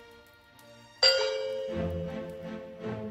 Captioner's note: doorbell Rings